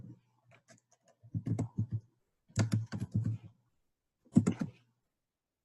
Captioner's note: keyboard keys clicking